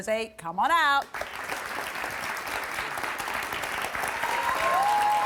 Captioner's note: audience applauds